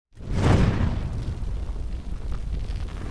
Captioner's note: fire burst